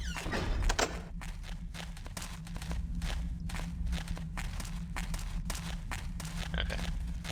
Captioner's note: fast-paced footsteps